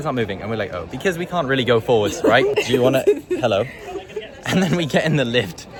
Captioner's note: laughter